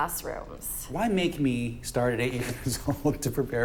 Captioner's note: laughs